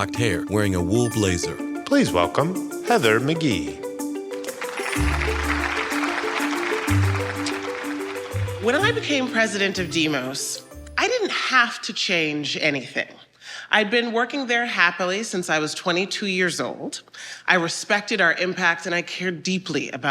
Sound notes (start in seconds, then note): 7.0 audience clapping